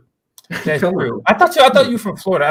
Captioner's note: laughter